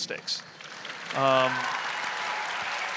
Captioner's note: audience applauding; audience cheering